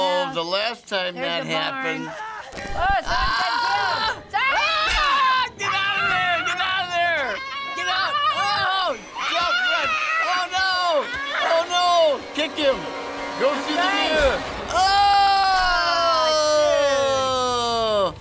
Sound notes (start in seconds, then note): 2.5 static; 3.1 counselor screaming